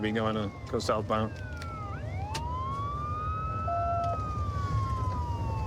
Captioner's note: sirens wailing